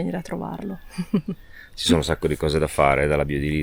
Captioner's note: laughter